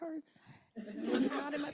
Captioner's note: laughter